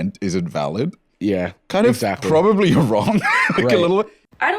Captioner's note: laughs